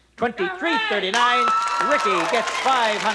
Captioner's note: audience applause and screams